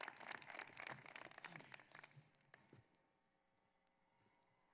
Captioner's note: applause